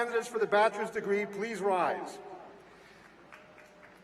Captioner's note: applause